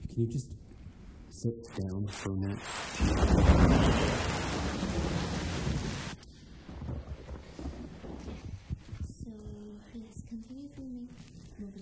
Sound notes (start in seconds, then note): 2.5 rain pouring; 2.6 thunder rumbling